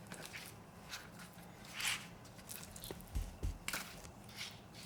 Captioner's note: rustling movement